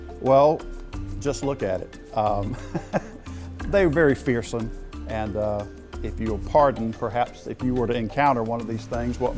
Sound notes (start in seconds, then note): 2.4 chuckles